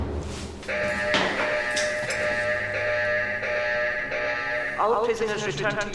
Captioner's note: door slamming; alarm ringing